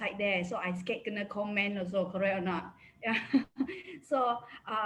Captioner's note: laughs